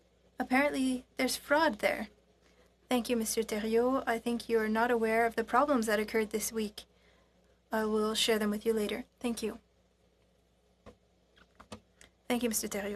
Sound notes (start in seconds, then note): 1.5 speaking in French